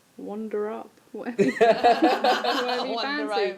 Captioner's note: laughter